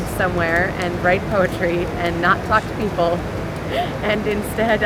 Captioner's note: laughs